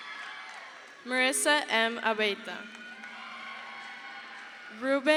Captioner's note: crowd cheers